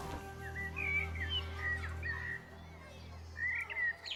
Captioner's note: birds singing